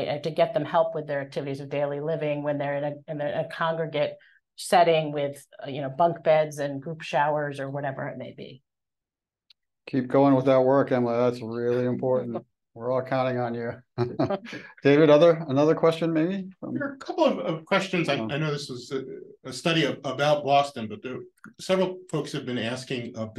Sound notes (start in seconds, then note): 11.7 chuckles; 13.8 chuckles